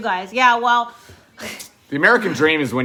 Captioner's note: chuckles